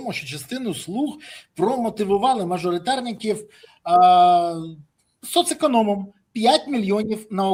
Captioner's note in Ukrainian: сопіння